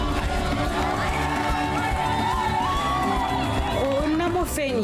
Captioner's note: crowd cheering; speaker speaking in foreign language